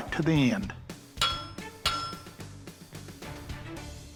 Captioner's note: hammering